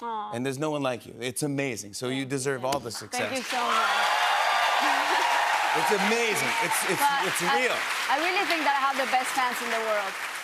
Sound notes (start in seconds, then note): 3.2 cheers and applause